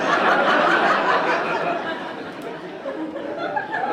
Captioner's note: audience laughing